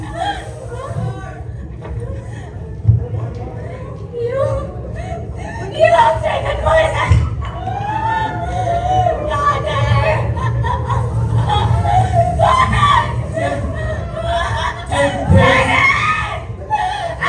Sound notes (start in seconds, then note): 14.3 laughing